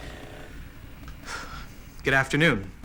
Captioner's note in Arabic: تنهدات